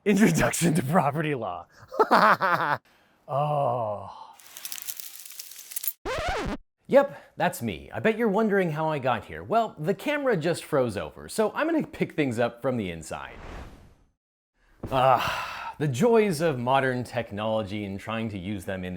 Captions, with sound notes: Introduction to Property Law. (laughs) Oh. (crackle) (record scratches) Yup, that's me. I bet you're wondering how I got here. Well, the camera just froze over so I'm going to pick things up from the inside. The joys of modern technology and trying to use them